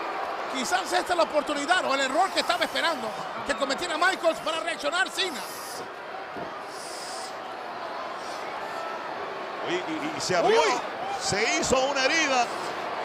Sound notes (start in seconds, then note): 5.7 applause